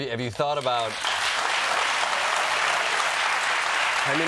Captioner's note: applause